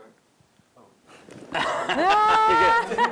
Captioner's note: laughter